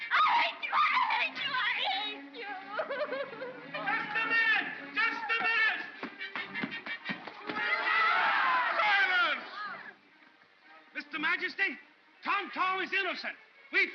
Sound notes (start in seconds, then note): 2.5 sobbing; 6.4 crowd clamors